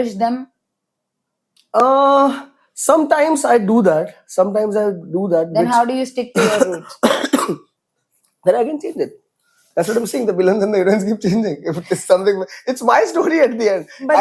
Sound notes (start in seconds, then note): 6.3 coughs; 12.6 laughs